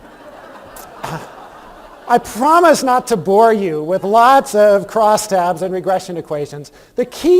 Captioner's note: laughter